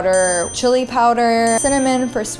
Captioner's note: ding